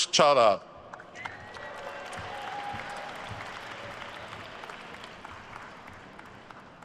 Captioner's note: attendees cheering and applauding